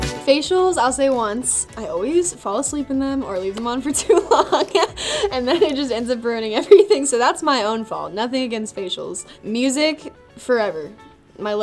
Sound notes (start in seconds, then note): 3.9 laughs